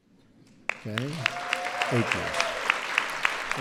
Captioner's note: applause